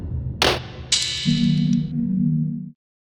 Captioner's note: metal clanging; electronic humming